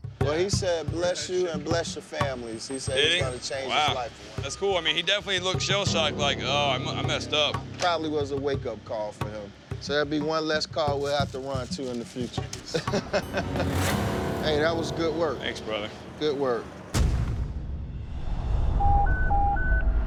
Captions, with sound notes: Well, he said bless you and bless your families. He said he's going to change his life. That's cool. I mean, he definitely looked shell shocked like, ah, I messed up. Probably was a wake-up call for him. So that'd be one less call we'd have to run to in the future. [laughter] Hey, that was good work. - Thanks, brother. Good work. [audio logo] [beeping]